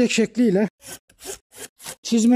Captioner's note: the cutting sound of the saw is crunchy